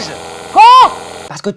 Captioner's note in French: au-dessus du bruit de la perceuse